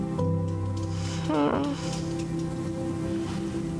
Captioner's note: Selma let's out a defeated groan